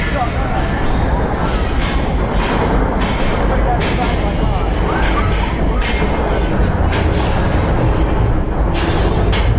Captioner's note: fx - sirens, screeching rattling sounds